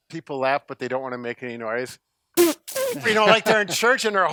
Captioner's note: squeals